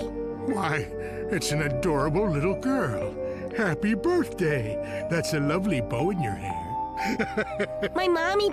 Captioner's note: chuckles